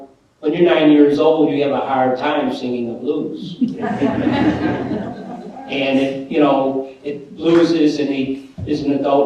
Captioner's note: laughter